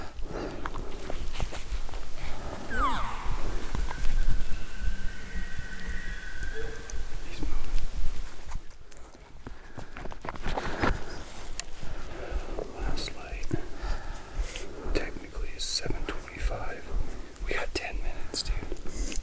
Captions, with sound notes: (Caller cow calling) (Elk bugling) He's moving. Last light technically is 7:25. We got ten minutes dude.